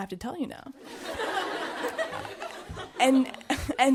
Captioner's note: audience laughing